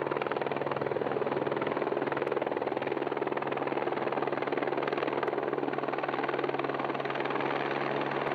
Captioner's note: sound of a helicopter